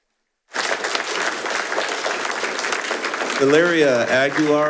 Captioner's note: attendees applauding